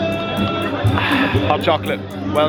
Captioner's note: cool music; crowd murmuring; sighs deeply